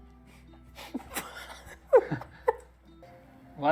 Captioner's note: quiet laughter